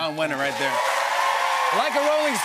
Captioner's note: cheers and applause